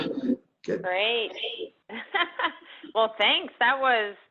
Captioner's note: laughs